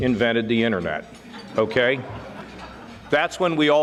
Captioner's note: audience laughing